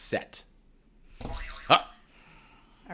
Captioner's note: boing sound plays